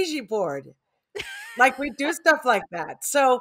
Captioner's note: laughs